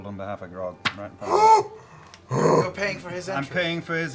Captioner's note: excited gasp